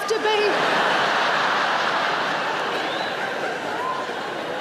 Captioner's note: audience laughs